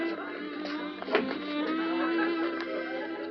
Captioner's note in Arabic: يُفتح الباب